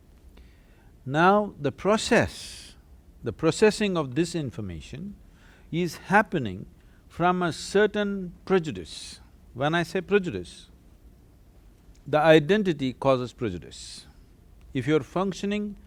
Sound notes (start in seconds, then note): none